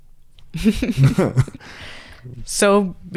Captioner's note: both laugh